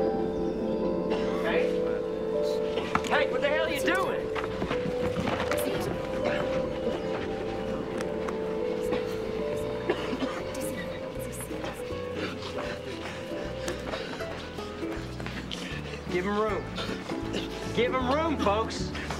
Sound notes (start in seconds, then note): 8.8 coughing; 11.4 gasping